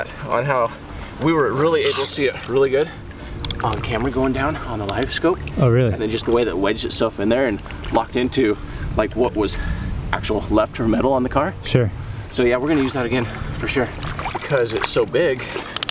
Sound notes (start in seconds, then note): 5.7 male Voice